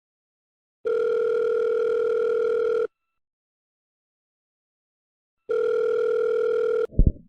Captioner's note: ringing tone